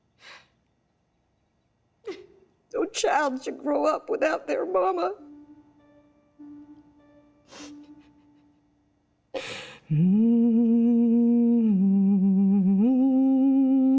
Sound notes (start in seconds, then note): 4.9 slow tempo music; 9.7 humming